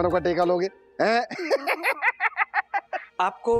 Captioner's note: laughing